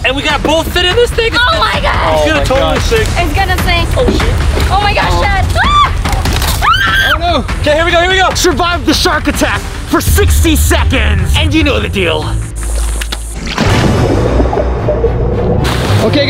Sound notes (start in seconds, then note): 6.5 screaming; 13.2 upbeat music